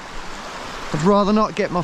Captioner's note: water rushing